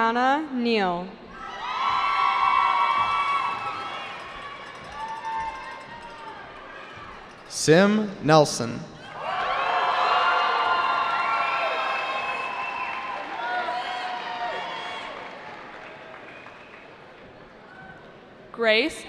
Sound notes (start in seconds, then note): 1.3 cheering; 9.0 cheering